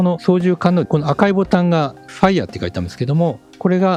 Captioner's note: fire